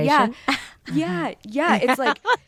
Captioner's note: laughs